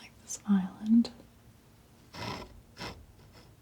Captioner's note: scratching